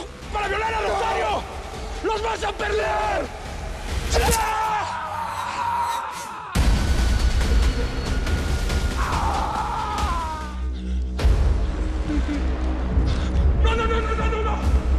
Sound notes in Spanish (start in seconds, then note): 0.2 Grito; 3.1 Ruido al cortar; 6.3 Quejido; 9.0 Quejidos de dolor